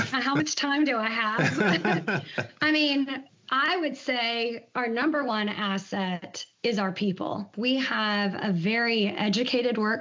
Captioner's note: both laugh